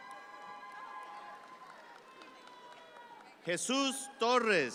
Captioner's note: audience cheer